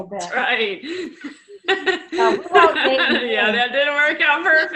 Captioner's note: laughs